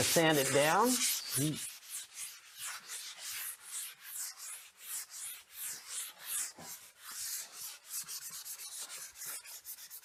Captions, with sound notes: Just going to sand it down. [sanding]